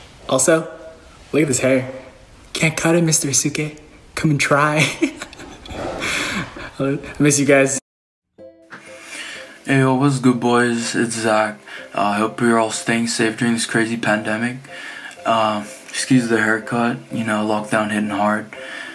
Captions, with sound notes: Also Look at this hair Can't cut it Mr. Asuque Come and try *chuckles* I miss ya guys! Hey what's good boys its Zach I Hope ya'll staying safe during this crazy pandemic Excuse the hair cut ya know lockdown hit it hard